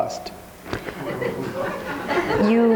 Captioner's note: audience laughing